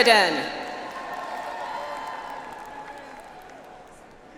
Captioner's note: audience applauds